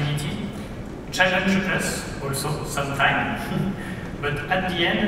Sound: laughs

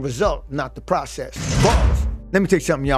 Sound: bars slamming

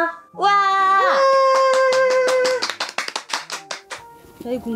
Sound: clap

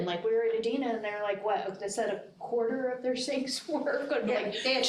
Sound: laughs

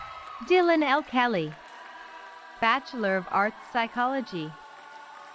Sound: cheering

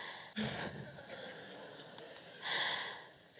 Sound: laugh

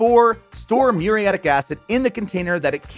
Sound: graphics popping

